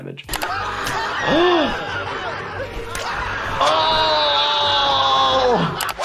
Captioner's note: Wee Man screaming; Jackass crew laughing